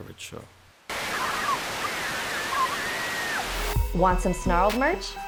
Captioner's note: screaming